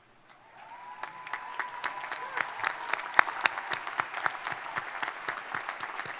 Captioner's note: crowd cheering; crowd applauding